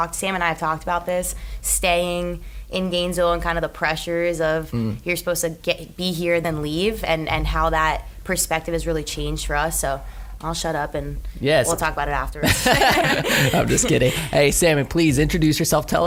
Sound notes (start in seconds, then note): 12.4 laughs